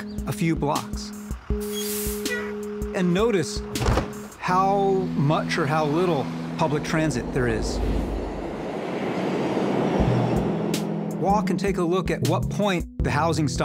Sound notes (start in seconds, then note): 1.1 horns honk; 2.6 bus hisses